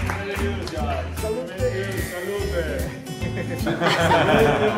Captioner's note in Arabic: باللغة الإيطالية